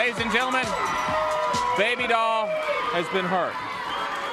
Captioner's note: crowd cheering